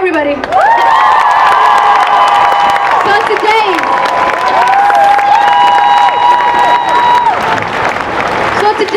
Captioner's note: cheering and applause